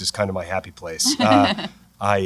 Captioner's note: laughter